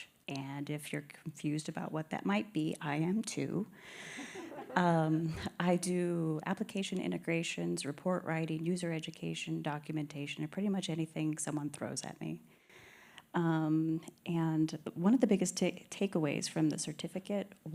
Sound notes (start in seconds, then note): 4.0 laughter